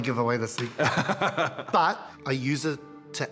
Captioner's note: laughs